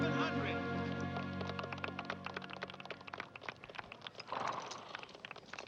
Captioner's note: audience applauding